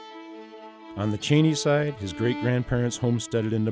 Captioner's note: voiceover